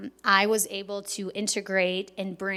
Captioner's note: none